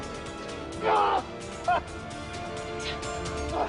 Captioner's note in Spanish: Quejidos